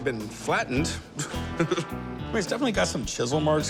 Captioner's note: laughs